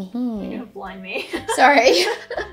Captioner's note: laughs; both laugh